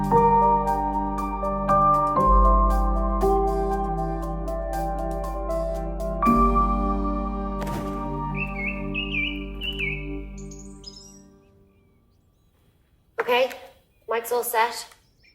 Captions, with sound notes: (BIRDS CHIRP) OK. The mic's all set.